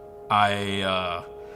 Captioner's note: chuckles